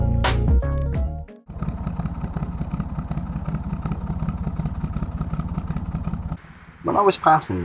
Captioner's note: narrowboat engine sounds